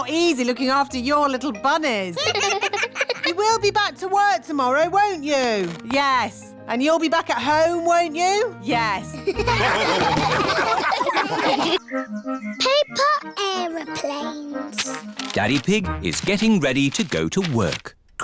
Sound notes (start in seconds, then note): 2.2 children laugh; 9.2 all laugh